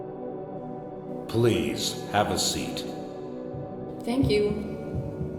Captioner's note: disembodied Voice